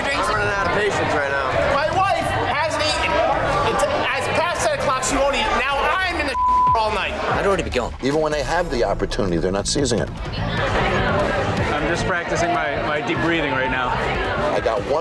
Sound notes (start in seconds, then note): 6.3 beep; 9.4 customers chattering loudly